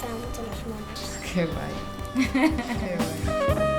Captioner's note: laughs